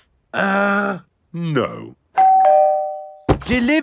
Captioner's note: doorbell rings